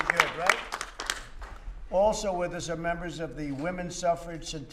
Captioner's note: applause